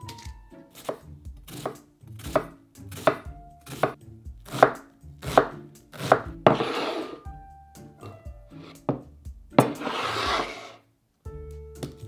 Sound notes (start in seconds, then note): 0.9 knife slicing